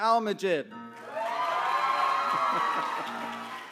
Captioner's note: applause